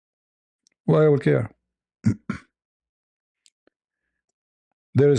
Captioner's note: berdehem